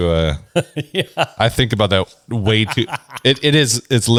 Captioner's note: laughs